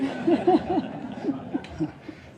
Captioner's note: laughs